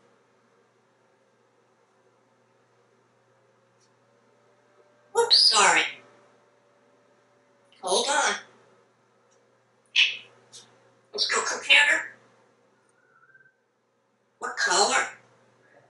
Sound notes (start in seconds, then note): 12.9 whistling in the background